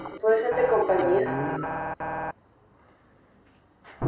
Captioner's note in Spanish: voz distorsionada